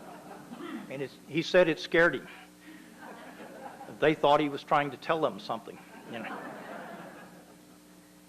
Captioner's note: laughter; laughter